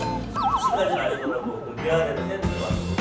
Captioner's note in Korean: 깨갱